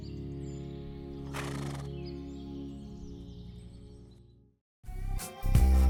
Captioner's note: horse braying; cheerful music